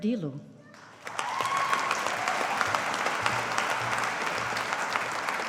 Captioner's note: audience applauding